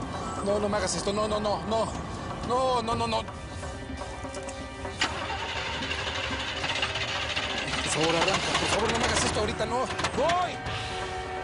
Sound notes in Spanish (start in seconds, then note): 5.9 Ruido intentando prender motor